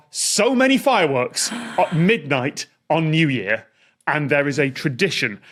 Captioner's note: gasps